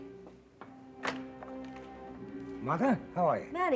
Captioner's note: door opens